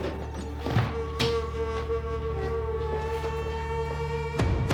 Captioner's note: suitcase thuds; shoes stepping